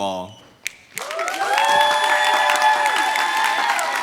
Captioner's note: applause